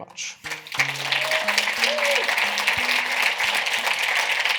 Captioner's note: audience applauding